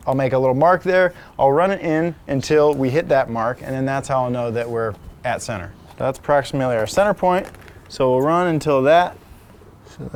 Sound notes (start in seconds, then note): none